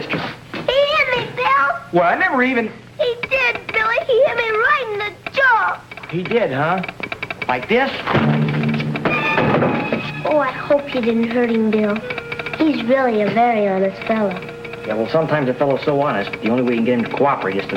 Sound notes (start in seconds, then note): 8.6 fist pounding; 8.6 telegraph tapping